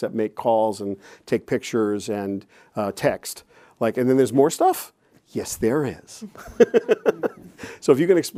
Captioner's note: chuckles